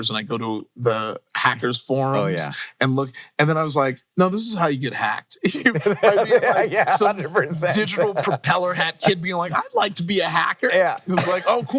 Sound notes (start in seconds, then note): 5.4 laughs